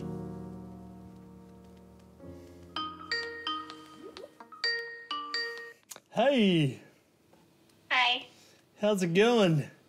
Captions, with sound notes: (SKYPE RINGTONE CHIMES) Hey! - Hey. - How's it going?